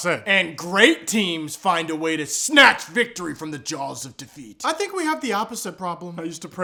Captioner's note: none